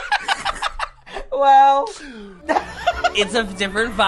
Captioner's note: laughs; laughs